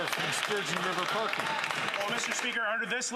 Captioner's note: some Applause